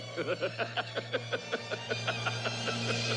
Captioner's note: PRESENT LAUGHlNG